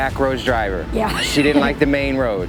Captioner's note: laughing